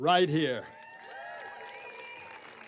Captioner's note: applause